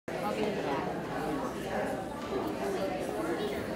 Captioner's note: crowd noise, people talking indistinctly